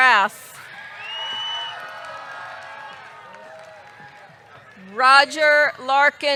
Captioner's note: audience cheering; audience clapping